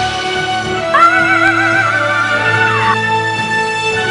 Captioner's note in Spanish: Grito Heavy de celebración